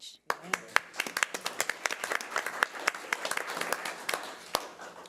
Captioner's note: audience applause